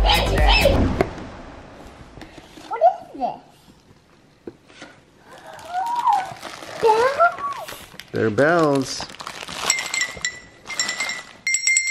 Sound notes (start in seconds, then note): 5.2 gasps